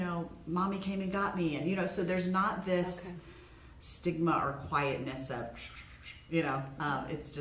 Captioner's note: whispers